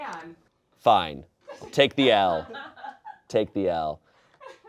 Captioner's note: audience laughing